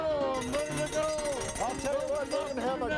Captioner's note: bell ringing